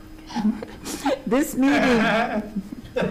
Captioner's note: chuckles